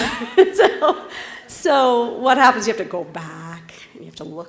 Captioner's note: laugh